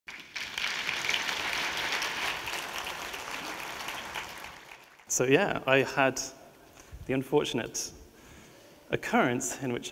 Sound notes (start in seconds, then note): 0.0 audience clapping